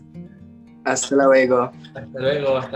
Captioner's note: in Spanish